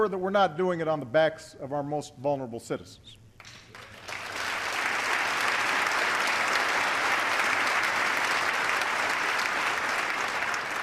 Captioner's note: applause